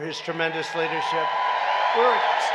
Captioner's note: applause